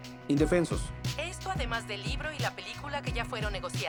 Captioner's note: voiceover